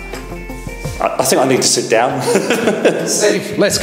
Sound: laughs

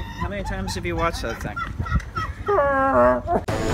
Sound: hysterical laughing

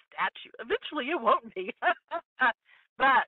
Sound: laughing

